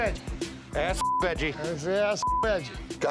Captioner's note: beep